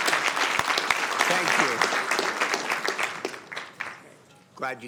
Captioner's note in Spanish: aplausos